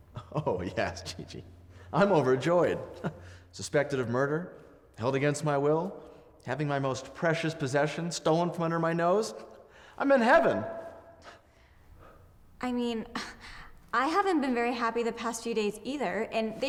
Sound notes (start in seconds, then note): 0.5 scoffs; 2.8 chuckles; 11.7 scoffs